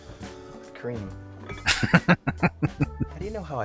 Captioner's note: laughing